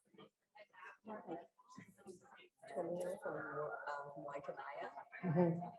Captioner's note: chattering